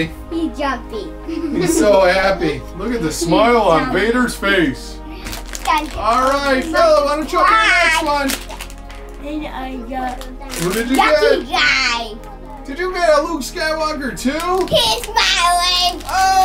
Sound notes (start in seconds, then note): 1.2 girls giggling